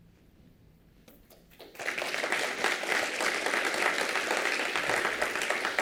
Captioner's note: applause